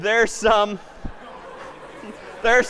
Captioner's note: laughter